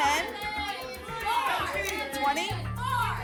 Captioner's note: audience shouting numbers